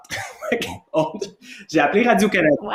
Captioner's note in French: rires